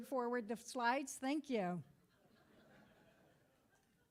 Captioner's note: crowd laughing